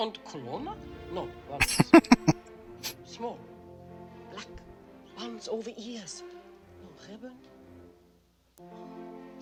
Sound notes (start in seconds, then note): 1.6 laughing